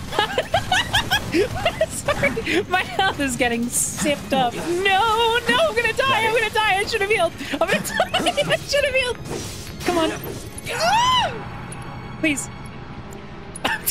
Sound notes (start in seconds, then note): 0.0 laughter; 0.1 laughing; 6.9 laughing; 10.7 squeal; 13.7 laughter